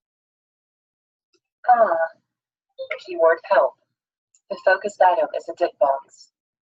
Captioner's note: device making noise